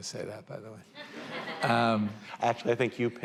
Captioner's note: laughter